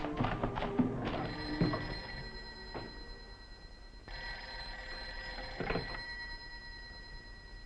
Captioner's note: phone ringing